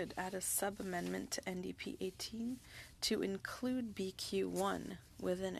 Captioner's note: speaking French